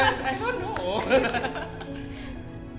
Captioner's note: laughs